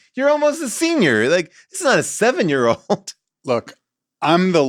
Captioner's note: laughs